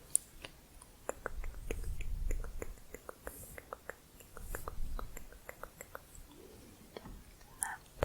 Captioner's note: tongue clicking